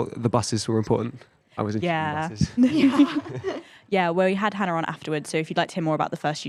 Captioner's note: laughing